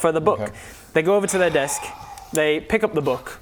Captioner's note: disappointed sigh